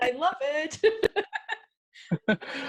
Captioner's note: laughs